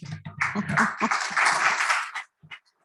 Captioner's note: applause; chuckles